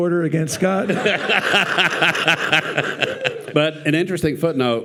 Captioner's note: participants and audience laughing